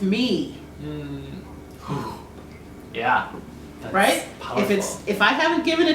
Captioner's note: "Whoo!" sound in a whisper voice